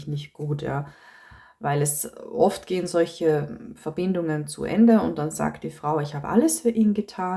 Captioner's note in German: japst